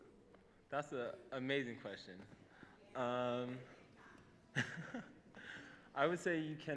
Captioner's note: laughs